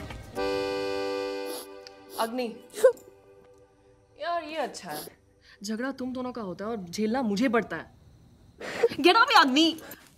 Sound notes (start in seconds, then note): 1.4 Agni sniffling, crying